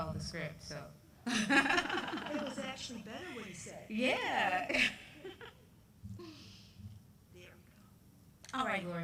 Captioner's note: laughter